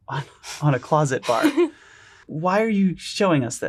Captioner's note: laughs